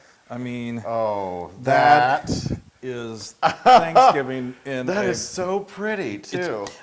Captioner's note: laugh